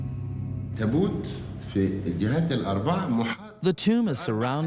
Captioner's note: Arabic dubbed in English